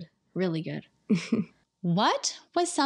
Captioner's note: chuckling